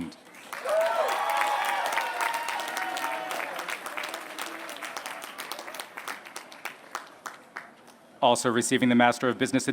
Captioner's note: applause